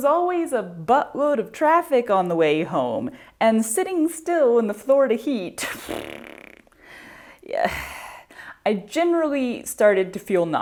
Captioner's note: mouth fart